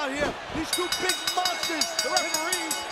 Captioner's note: bell dinging